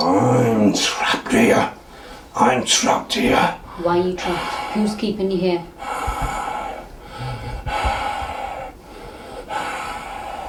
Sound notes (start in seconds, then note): 5.6 heavy breathing